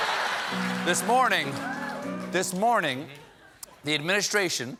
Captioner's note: laughter